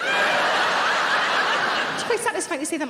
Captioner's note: audience laughing